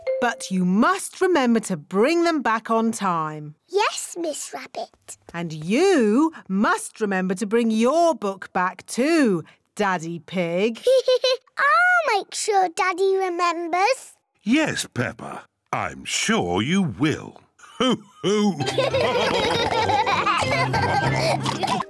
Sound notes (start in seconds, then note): 10.7 laughs; 17.7 all laugh